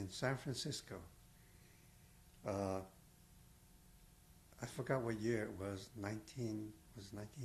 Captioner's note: pauses for 3 seconds